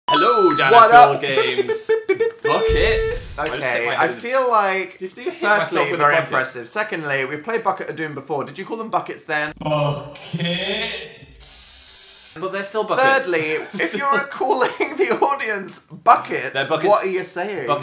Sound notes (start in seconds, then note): 2.7 explosion noise; 13.3 starts laughing; 14.9 through laughter